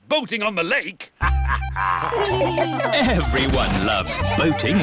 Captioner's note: laughter